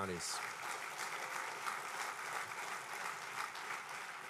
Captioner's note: applause